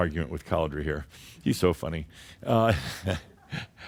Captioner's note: Adamus chuckles